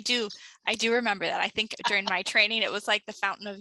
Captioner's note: laughs